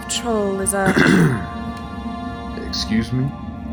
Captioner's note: coughs, clears throat. a bit condescending